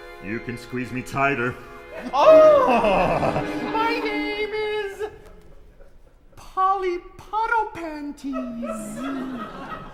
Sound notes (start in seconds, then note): 3.7 client in falsetto